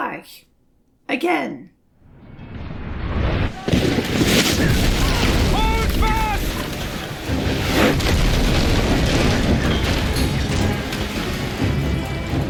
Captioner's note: battle noises